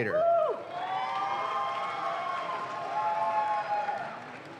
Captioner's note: audience claps